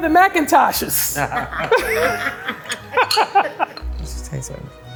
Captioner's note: everyone laughs